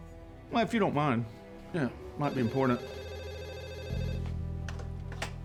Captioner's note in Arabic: يرن الهاتف